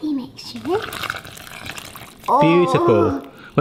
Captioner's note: liquid pouring